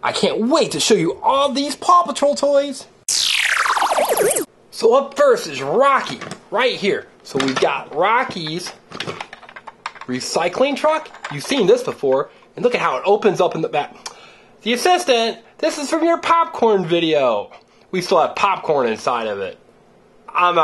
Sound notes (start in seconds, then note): 3.1 tape rewind